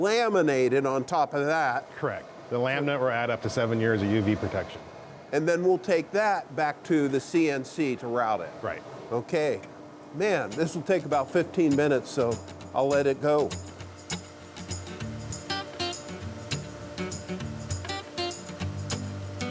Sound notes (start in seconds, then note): 14.6 machinery whirring loudly; 18.2 light, upbeat country music